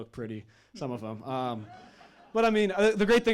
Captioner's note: audience chuckling